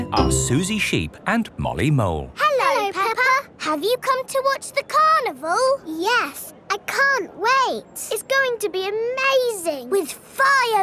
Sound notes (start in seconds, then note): none